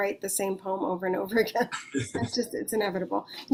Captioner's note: laughs